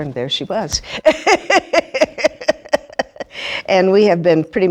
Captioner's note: laughing